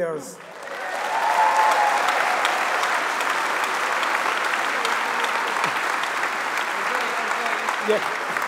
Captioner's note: applause